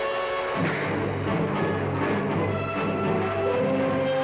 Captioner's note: fists pound